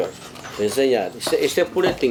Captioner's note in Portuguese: pássaros cantando